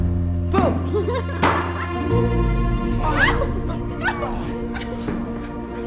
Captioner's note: laughter, squealing